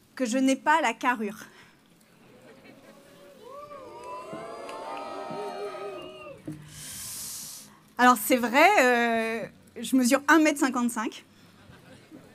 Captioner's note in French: rires